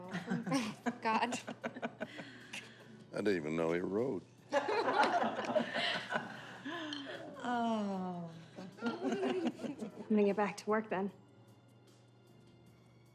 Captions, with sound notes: -Oh! -God. [everyone chuckles] I didn't even know he rode. [everyone laughing] Oh! I'm gonna get back to work then.